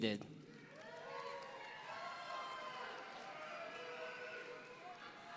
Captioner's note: audience cheering